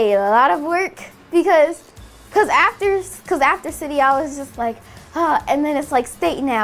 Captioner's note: sighs